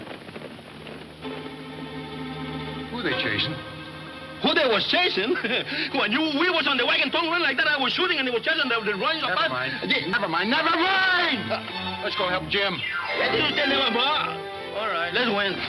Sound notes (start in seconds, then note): 5.0 chuckles